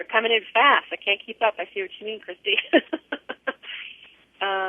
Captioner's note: laughter